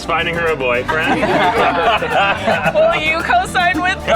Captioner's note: laughing